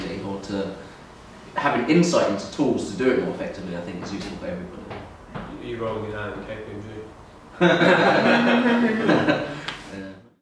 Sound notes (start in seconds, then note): 7.6 audience laughs